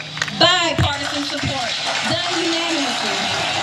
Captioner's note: applause